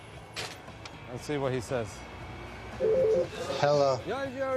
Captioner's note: telephone rings